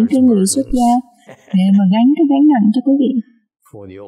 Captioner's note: laughter